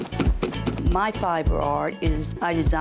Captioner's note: rhythmic thumping